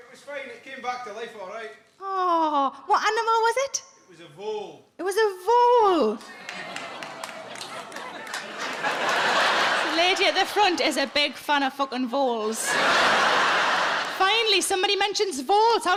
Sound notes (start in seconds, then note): 6.2 a few audience members clap; 8.9 audience laughs; 12.4 audience laughs